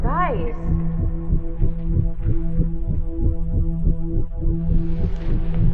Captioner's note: heartbeat pulsing; low tense tones